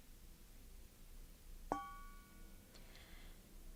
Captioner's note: bell toned